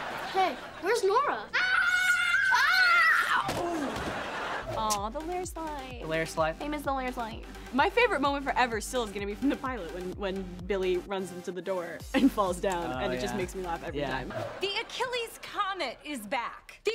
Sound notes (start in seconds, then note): 1.5 screaming